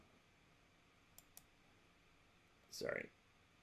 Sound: computer mouse clicks

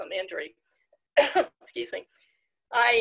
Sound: coughing

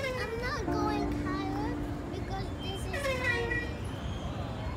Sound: swings creaking

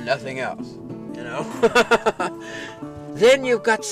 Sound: laughter

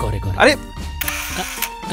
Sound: camera clicks

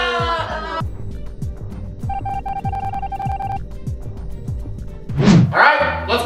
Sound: family exclaiming their dismay; electronic beeping as words appear

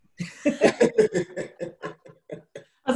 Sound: laughter

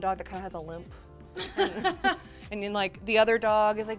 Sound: laughs

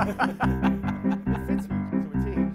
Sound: laughter

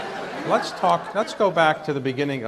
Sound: audience laughs

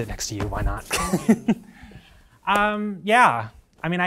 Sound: chuckling

